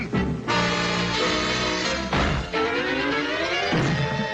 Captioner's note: Mammy pounding